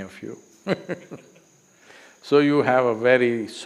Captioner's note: laughs